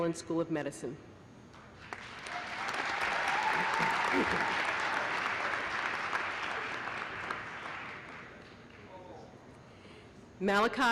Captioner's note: applause